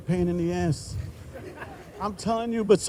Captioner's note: group laughing